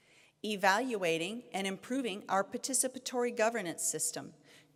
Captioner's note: none